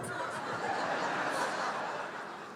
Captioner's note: laughter